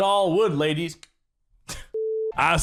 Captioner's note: clicks